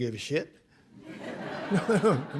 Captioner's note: laughter